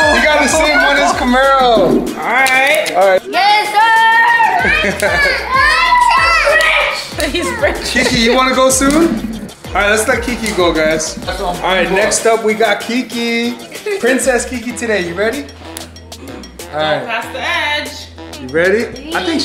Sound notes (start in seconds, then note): 4.0 laughs; 15.6 hands claps